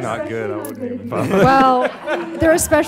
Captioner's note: laughing